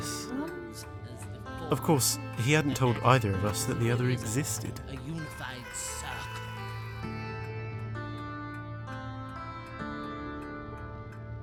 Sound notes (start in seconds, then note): 4.9 Sareth continues to chatter in the background; 7.3 music picks up